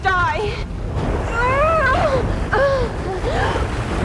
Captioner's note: grunting